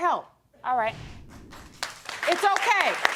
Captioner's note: audience applauds